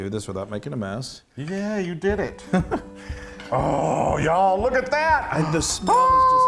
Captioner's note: laugh